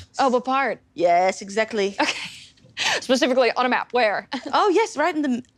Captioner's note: chuckles